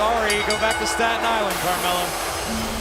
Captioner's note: bell ringing